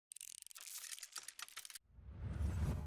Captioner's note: crinkling; swooshing